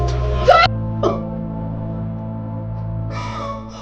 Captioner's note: crying